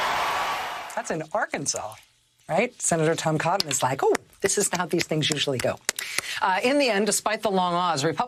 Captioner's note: cheers and applause